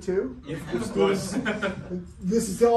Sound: everyone laughing

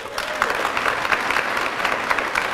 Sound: applause

